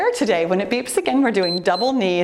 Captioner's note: timer beeps